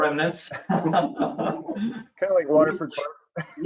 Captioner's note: all laughing